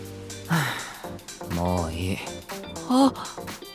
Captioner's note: sigh